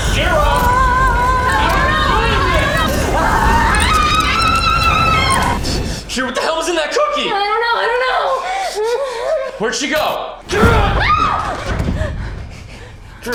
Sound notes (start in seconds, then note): 3.3 Madam Maze screaming; 3.3 tense dramatic music; 10.6 Kira screams